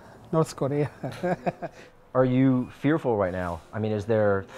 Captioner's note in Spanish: risas